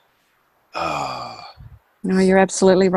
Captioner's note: sighs